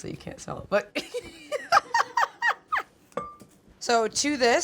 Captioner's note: laughs